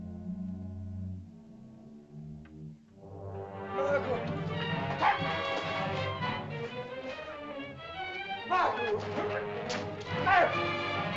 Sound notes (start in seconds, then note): 3.7 Ohtao shouts; 3.7 dramatic music; 8.4 shouting in caveman language